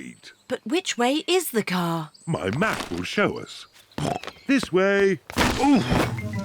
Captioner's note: snorts